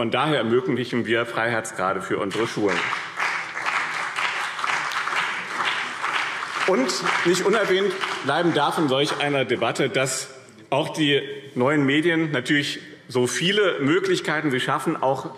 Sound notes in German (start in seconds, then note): 2.3 Beifall BÜNDNIS 90/DIE GRÜNEN und CDU